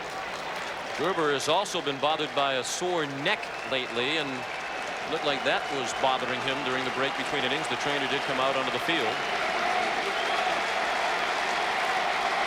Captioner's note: applause